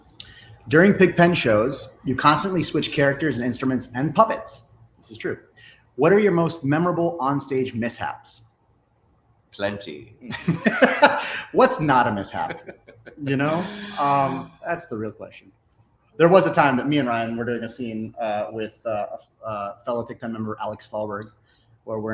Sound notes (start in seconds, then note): 11.8 laughs